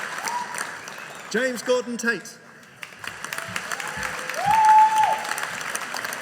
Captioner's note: audience cheering